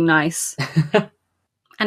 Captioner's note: laughs